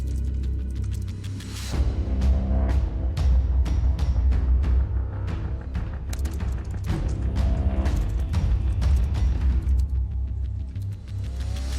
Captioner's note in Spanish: Tecleo